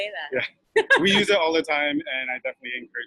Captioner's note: laughs